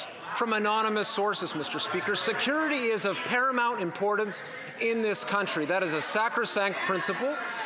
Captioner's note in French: voix de l'interprète